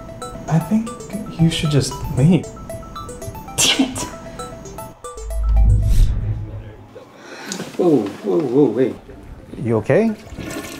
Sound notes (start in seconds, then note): 5.2 whooshes; 7.4 Ashley sighs